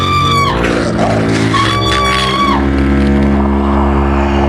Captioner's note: growling